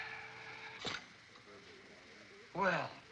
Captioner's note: metal sliding sound